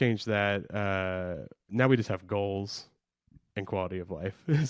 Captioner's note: laughs